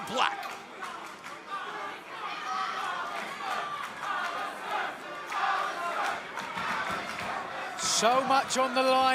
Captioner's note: crowd chatter